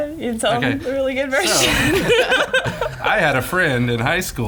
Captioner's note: laughs